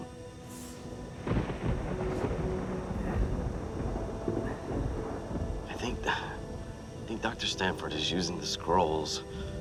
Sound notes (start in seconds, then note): 0.9 thunder rumbles